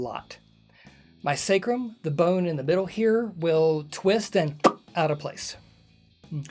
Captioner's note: pop